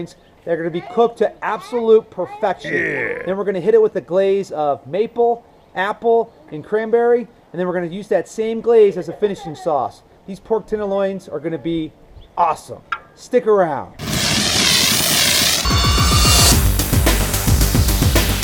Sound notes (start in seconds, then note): 2.6 grunts; 14.0 explosion; 15.7 rock music